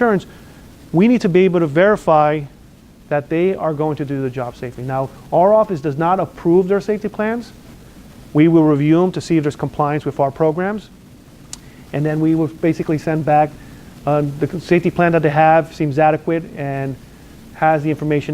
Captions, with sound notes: insurance, we need to be able to verify that they are going to do the job safely. Now, our office does not approve their safety plans. We will review them to see if there's compliance with our programs. (lip smacks) And then, we will basically send back the safety plan that they have seems adequate and has the information